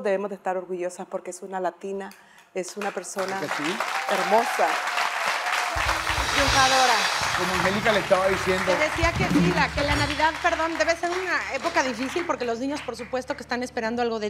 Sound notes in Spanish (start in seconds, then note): 4.1 Aplausos